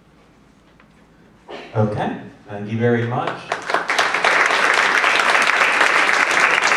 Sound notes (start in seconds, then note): 4.9 applause